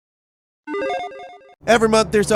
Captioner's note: alarm chimes